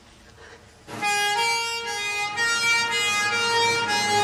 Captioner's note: siren wailing